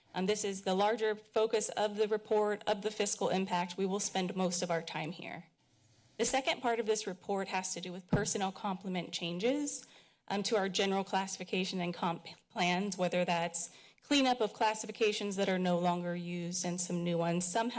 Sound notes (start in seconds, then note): none